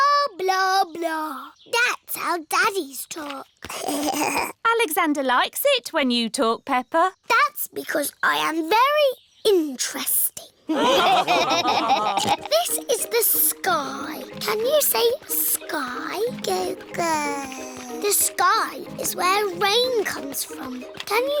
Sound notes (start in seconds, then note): 3.7 alexander giggles; 10.6 laughter; 12.6 snorts; 16.9 babbles